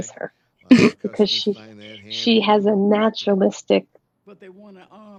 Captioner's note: chuckles